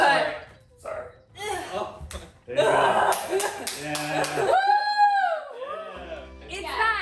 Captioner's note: cheering